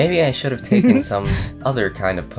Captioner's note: laugh